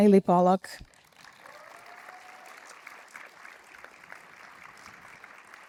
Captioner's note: audience applauds